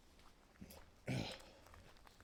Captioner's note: grunts